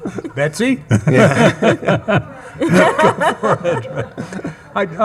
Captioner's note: attendees laughing